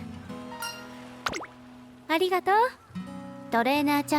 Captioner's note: none